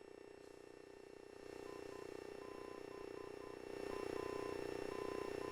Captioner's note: systems humming and beeping